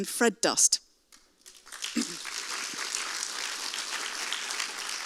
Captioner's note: audience applauds